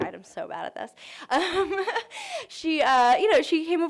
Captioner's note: laughter